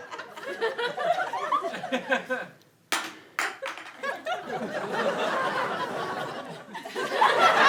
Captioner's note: audience laughing